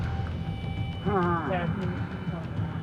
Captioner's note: muffled moan